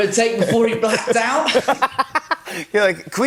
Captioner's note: both laugh